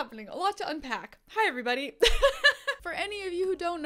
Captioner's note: laughs